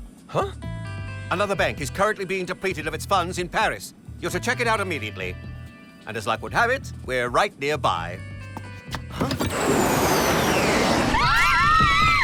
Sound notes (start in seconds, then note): 8.3 the spies scream